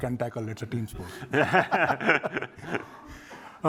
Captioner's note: laughter